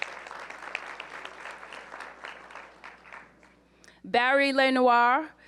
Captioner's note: applause